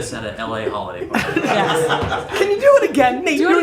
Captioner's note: all laughing